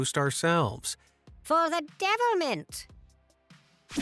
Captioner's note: in English accent